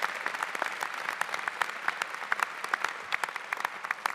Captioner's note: applause